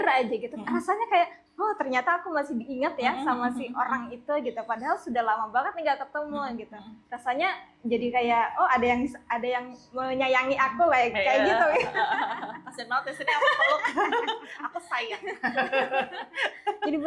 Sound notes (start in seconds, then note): 11.3 laugh